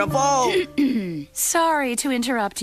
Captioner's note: clearing throat